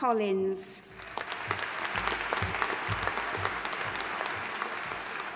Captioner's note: audience applauding